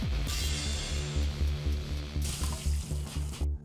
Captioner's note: sizzling